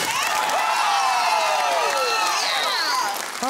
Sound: cheering and applause

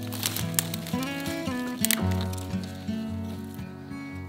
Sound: calming acoustic guitar; twigs snapping; calming acoustic guitar

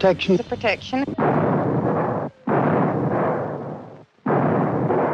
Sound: gun firing repeatedly

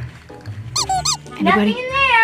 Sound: squeaking

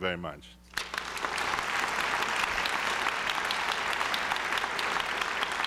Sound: applause

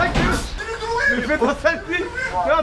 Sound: panics

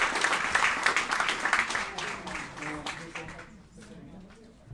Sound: applauding

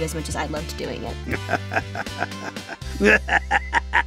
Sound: laughing maniacally

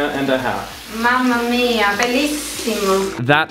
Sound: speaks foreign language

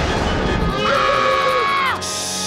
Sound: screaming

